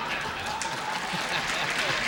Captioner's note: laughter